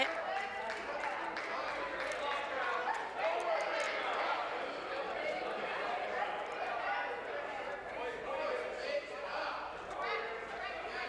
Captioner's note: applause